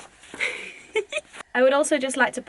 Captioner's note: laughs